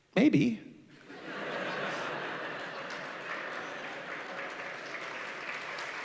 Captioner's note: applause